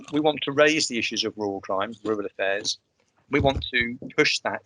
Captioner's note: sound of someone eating a crisp